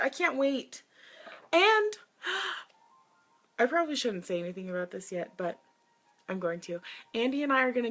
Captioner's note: gasps